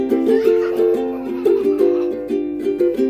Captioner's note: children laughing